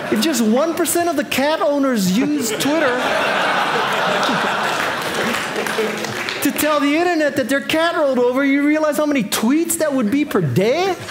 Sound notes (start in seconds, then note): 3.2 audience applauding